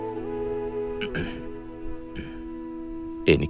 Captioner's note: clearing his throat